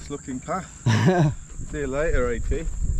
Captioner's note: chuckles nervously